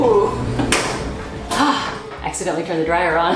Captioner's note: dryer shuts off